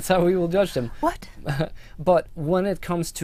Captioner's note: laughter